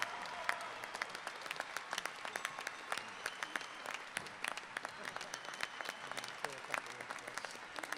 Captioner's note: applause